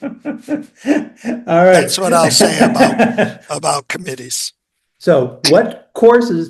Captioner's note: INTERVIEWER: laughs